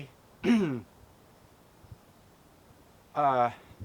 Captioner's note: coughs